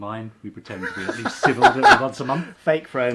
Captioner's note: laughing